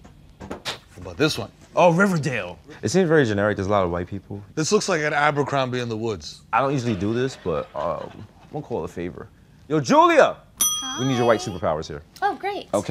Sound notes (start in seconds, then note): 9.1 yelling; 10.6 bell ringing